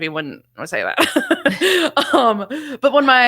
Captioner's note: both laugh